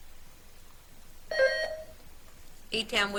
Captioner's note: buzzer beeps